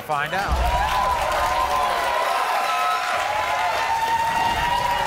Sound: audience cheers

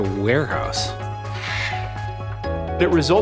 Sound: bird squawks

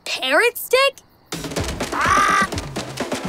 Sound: squawking

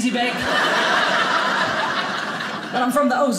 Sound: audience laughing

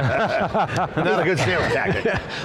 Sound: both laughing

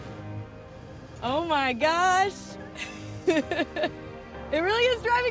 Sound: laughing

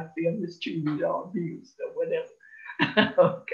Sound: giggles

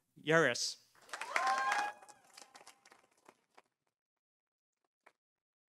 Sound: audience applauding

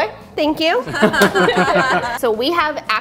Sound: laughs

